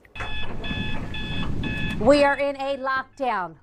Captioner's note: alarm sounding